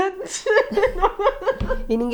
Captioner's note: laughs